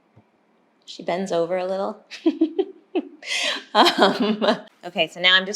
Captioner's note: laughing